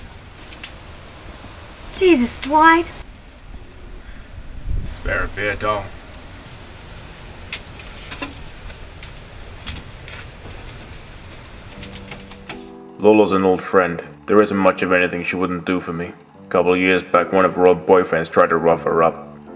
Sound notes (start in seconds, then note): 12.8 voiceover